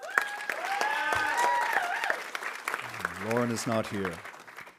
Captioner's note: audience cheering; audience applauding